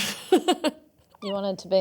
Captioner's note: laughs